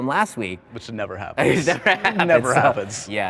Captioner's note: laughs